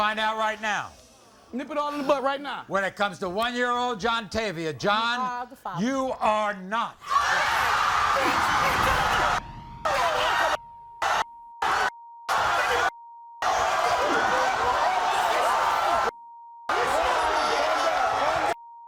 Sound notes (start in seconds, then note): 7.0 audience erupts; 13.4 yelling, cheering and screaming